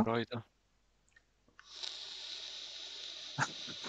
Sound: inhales vapour

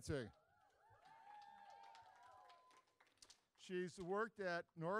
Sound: audience cheering

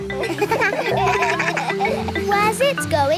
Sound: kids laugh

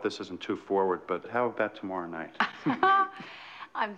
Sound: laughing

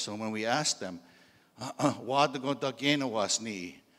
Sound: in Indigenous language

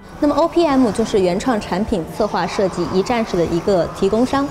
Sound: speaking in Chinese

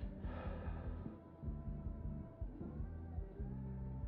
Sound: narrator sighing

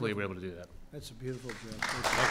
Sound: applause

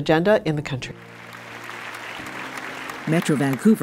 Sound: audience applauding

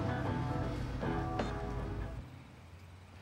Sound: beeps

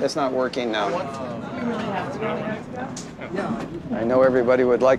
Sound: disappointed chatter from crowd

